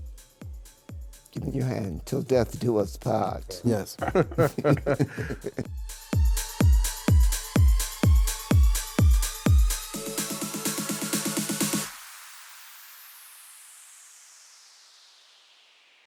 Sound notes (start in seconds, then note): 3.3 laughing; 6.1 upbeat music